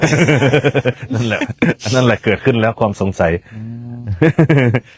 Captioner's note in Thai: เสียงหัวเราะ